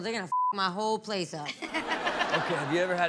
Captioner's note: beep; all laugh